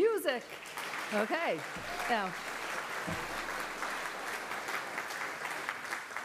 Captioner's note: applause